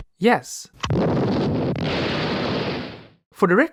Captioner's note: record scratch noise; explosion